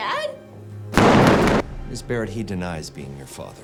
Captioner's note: gunshot blasts